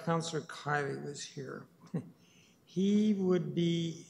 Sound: chuckles

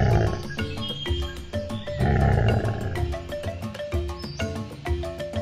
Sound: tiger growling

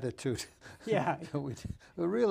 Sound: laughing

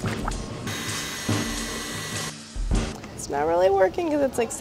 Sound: mixer whirring

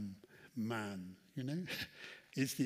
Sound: chuckles

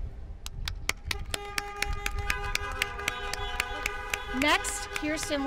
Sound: applause

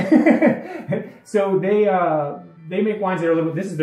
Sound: laughs

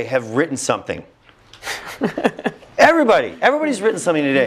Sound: laugh

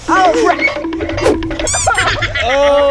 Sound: timer counting down; laughing

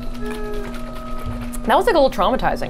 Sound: Nesquik sloshing; machine whirring continues

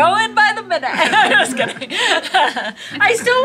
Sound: group laughs

